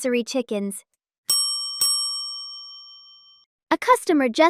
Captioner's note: bell Rings